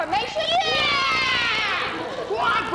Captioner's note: women cheer